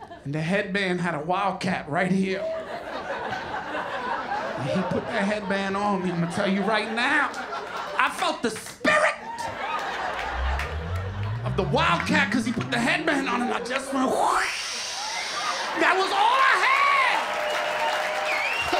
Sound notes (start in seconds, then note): 0.0 laughter; 2.4 laughter; 14.9 growls; 17.4 cheers and applause